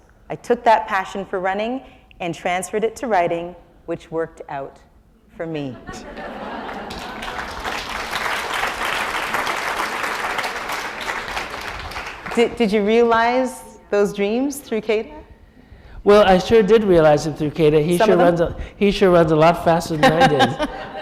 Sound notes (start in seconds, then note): 5.7 laughter; 6.6 applause